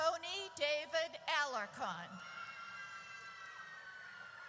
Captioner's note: audience cheers